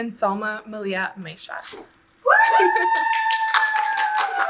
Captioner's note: audience cheers